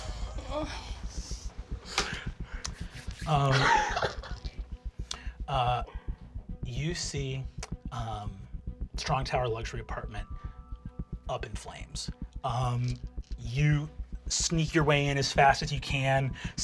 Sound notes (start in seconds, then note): 0.2 tense music; 3.2 laughing